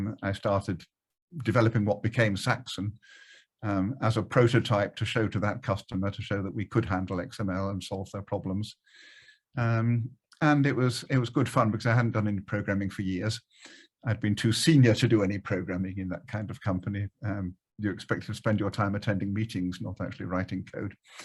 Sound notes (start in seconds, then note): none